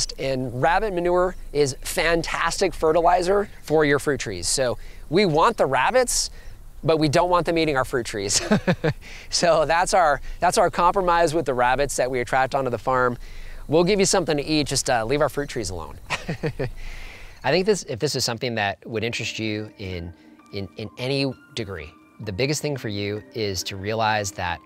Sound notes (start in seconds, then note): 8.3 laughs; 16.0 laughs